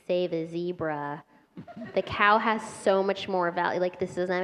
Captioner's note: laughter